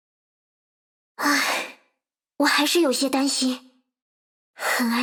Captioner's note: sigh